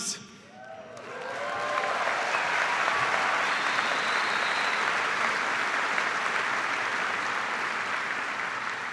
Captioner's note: cheers and applause